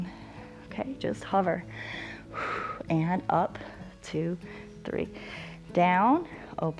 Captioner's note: exhales